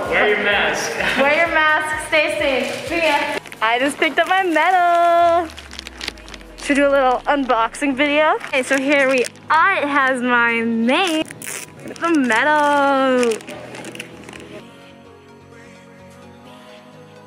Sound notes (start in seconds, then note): 10.9 plastic sticky peeling